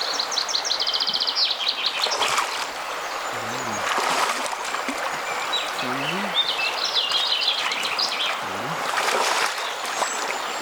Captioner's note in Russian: пение птиц; шум реки